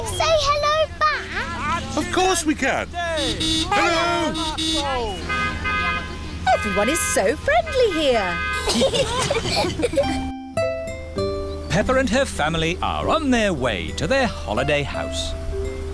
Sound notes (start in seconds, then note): 3.0 honking; 5.8 italians honk back; 8.5 all giggling